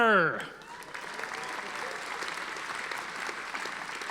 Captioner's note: audience applauding